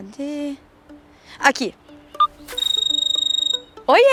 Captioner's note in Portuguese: Toque de celular